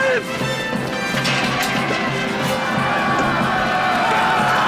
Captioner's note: shouting